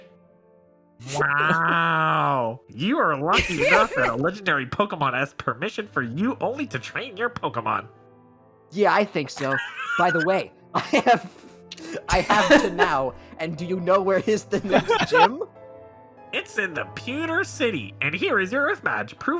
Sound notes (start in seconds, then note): 3.3 May laughs; 9.3 laughs; 12.7 laughs; 14.5 laughs